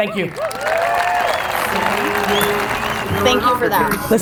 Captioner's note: audience cheers